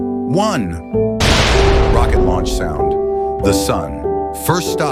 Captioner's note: SFX: Rocket launch sound